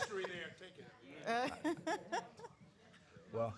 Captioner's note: laughter